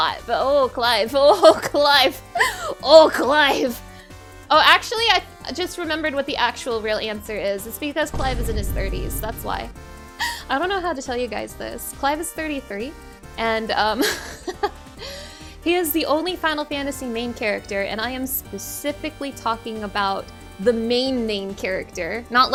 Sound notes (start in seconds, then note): 14.8 laughing